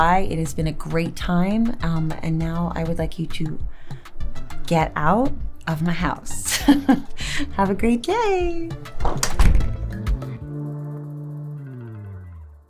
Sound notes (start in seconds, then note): 6.4 lightly chuckling; 9.1 upbeat music fading